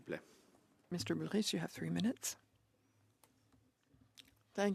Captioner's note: speaking French